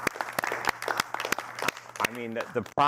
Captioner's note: applause